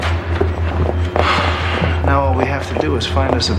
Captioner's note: sighing